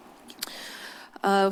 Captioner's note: clicks tongue